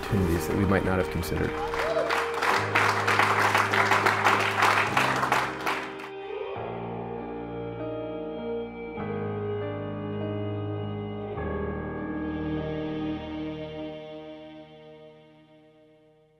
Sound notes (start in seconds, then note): 1.6 applause